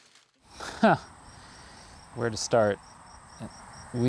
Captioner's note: laughing